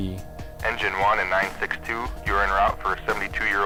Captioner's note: voiceover